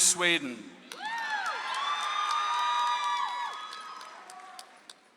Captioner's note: audience applauds